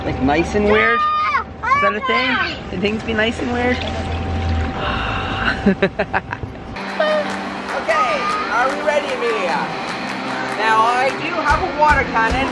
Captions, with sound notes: Like nice and weird... is that a thing? Is it a thing to be nice and weird? *laughs* *upbeat music* Ok... Are we ready Emilia? Now I do have a water canon...